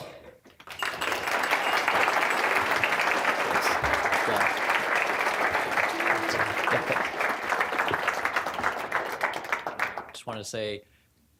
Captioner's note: applause